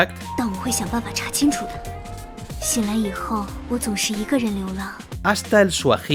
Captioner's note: speaks in Chinese